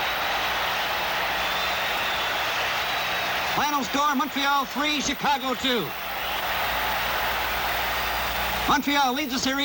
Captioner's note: crowd cheers